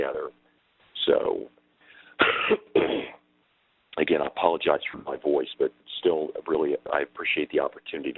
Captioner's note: clears throat